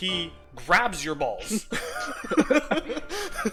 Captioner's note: laughter